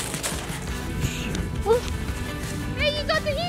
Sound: air whooshing

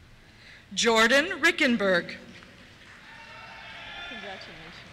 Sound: cheers

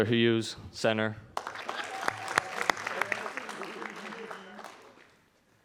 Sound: audience applauding

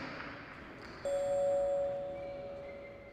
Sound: ding

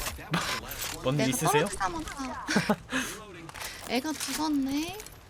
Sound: laughs

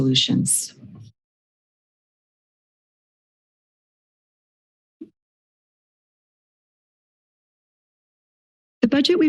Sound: silence

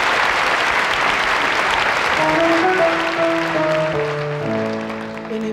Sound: audience applauding; slow, sentimental music

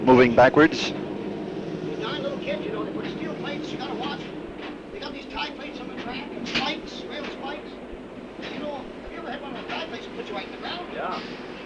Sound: sound of the train moving

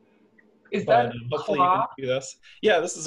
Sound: voice muffled

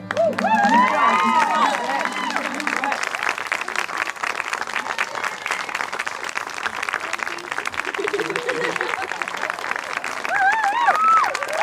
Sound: applause and Cheers

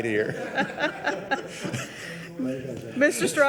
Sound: all laughing

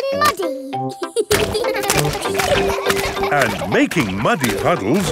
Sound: children laughing

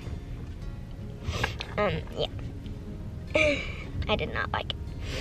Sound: sniffling

